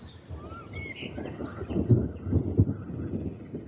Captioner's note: birds chirping; thunder booming